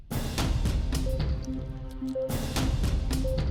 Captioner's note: Dracula hisses and Bites Neck